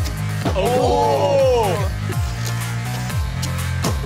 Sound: electronic music; oohing

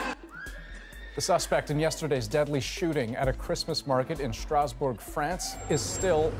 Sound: screaming

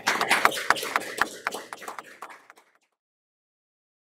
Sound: audience claps

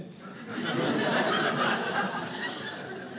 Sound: audience laughing

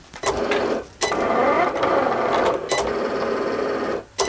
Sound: machine working

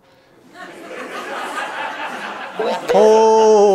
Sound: laughter

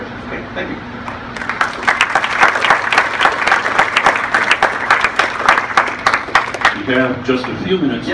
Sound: applause

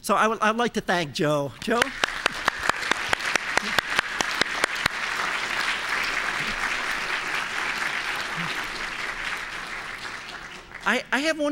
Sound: applause

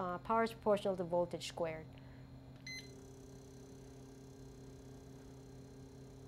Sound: beep

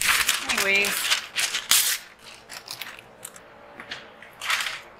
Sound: paper rustling

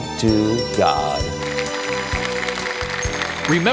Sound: applause

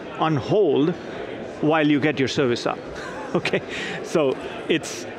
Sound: laughs

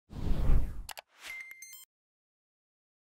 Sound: swishing

